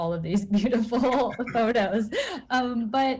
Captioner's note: laugh